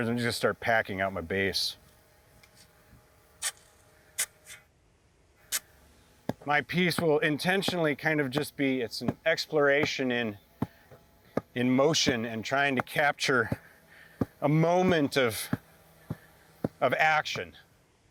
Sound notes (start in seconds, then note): 3.1 sand rustling